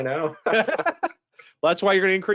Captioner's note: both laughing